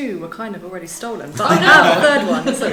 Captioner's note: all laughs